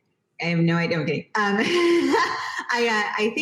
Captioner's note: giggles